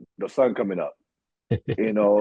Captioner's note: chuckle